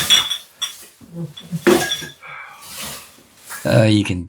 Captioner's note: sighs in utter annoyance